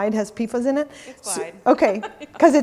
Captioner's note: laughs